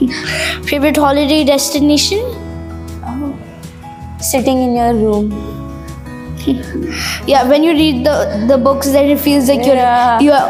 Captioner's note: laugh